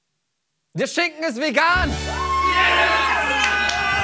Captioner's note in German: Lauter Jubel